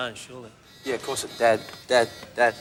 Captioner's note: beeping